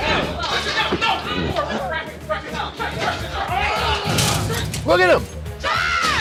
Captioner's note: men yelling; objects crashing